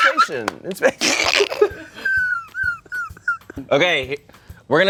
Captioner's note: everyone laughs